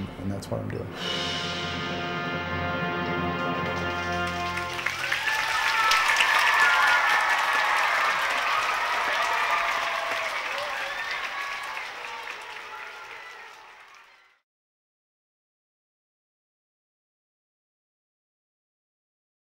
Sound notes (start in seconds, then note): 3.3 applause